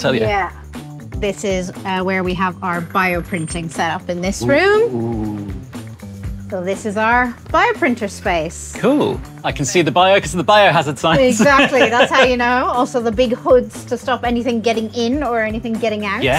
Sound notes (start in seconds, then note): 11.2 laughs